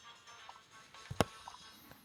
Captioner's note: tac